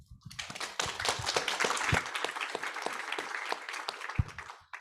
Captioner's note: audience applauds